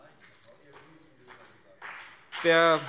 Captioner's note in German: Beifall CDU und BÜNDNIS 90/DIE GRÜNEN - Zuruf AfD